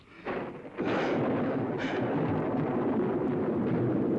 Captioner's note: thunder rumbling